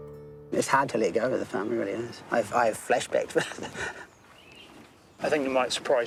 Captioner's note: laughs